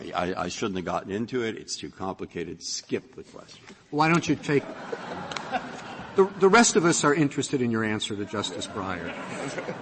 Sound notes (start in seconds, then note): 4.4 laughter